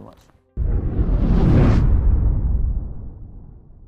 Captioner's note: whooshing